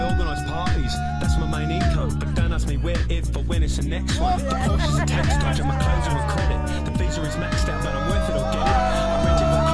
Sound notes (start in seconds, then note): 0.0 cheers; 4.2 cheering drowning out music